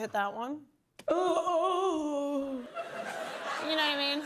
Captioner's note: woman groans and moans